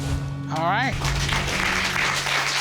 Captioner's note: applause